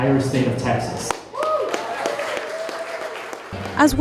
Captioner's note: applause